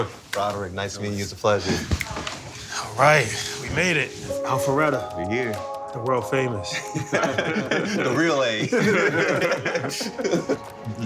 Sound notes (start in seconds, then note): 6.8 laughter